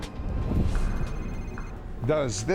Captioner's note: phone ringing